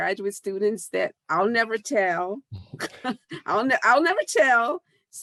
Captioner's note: laughs